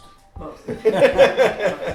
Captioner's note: laughing